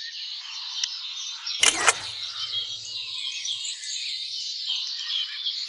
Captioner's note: camera shutter clicking